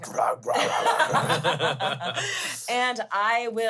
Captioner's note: laugh